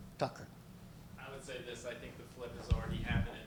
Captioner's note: voiceover